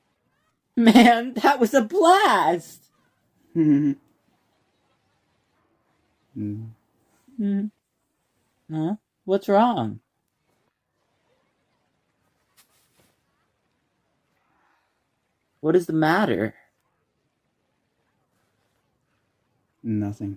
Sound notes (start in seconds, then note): 3.5 Luke chuckles; 6.2 Luke sighs